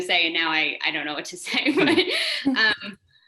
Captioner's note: laughs